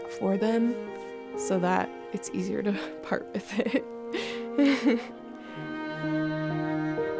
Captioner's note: chuckling; gentle music